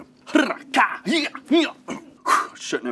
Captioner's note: rolls tongue; grunts